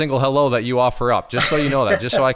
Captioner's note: laughs